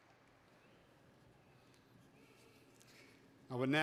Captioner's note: none